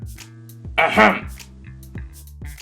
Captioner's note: clears throat